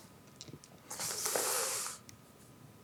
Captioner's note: inhales